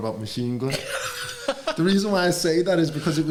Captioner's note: laughter